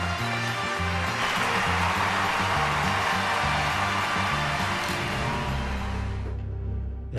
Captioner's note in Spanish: Aplausos